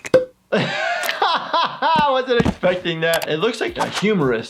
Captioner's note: laughing